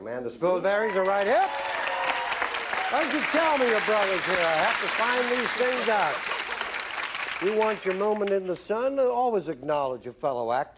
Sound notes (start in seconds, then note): 1.4 cheering